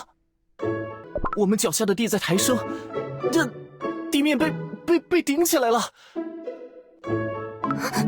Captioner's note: gasp